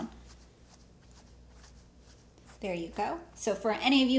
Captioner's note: pen scrapes against cloth